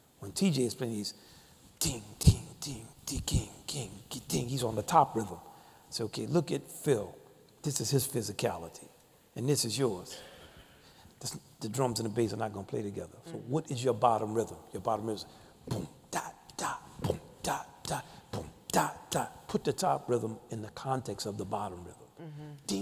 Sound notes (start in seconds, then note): 2.4 mimicking drum beats; 18.2 mimicking drum beats; 22.6 mimicking drum beats